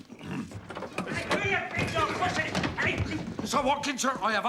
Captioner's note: shouts